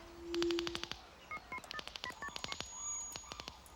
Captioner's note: phone beeping